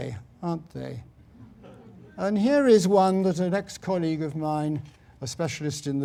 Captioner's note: laugh